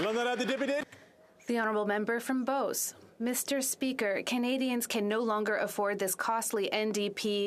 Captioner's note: applause